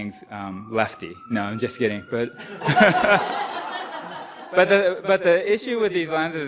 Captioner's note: laughter